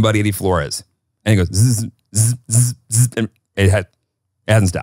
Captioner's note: mimics buzzing